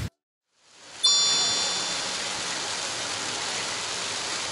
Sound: suddenly it's raining heavily

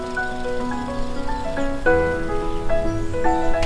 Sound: birds chirping

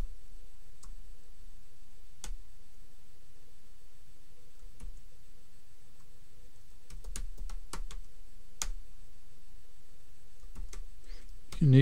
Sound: clicking

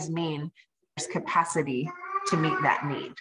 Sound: baby babbling

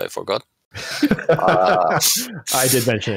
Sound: laughter

